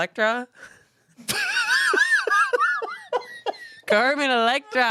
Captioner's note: laugh